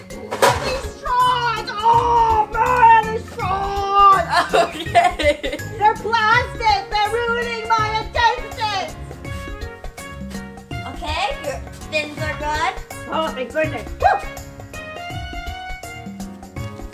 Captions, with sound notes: - All these straws, oh! All these straws! - (laughs) Okay. - They're plastic. They're ruining my intestines! - Okay, your fins are good. - Oh, thank goodness. Whew!